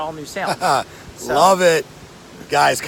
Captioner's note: laughs